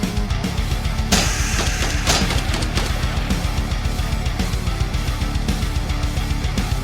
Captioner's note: gun blasting; scorpion hisses